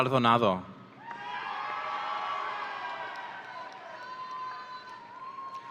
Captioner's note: audience cheering